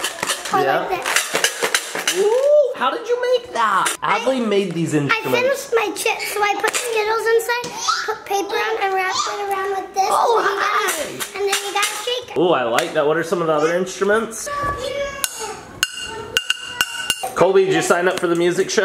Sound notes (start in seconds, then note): 0.0 maraca shaking; 14.6 tapping pots